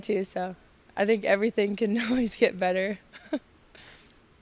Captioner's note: laughs